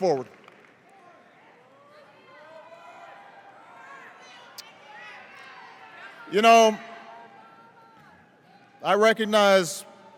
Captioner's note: cheers, individual audience members shout emotionally